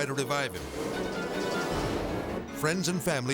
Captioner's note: intense music; engine revving